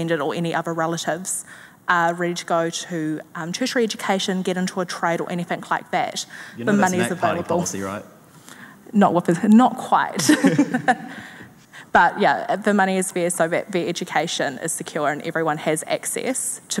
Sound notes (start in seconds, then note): 10.2 chuckling